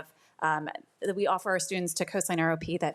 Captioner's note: none